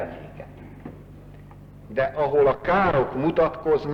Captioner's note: none